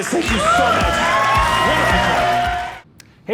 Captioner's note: audience cheering